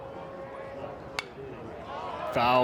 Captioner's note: bat dings